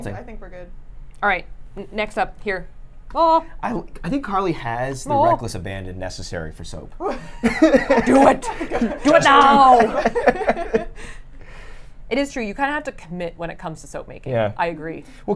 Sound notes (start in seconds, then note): 7.0 laughs